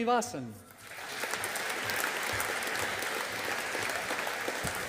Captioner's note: audience applauding